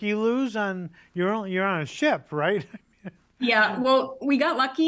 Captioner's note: laughs